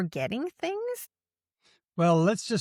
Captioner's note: none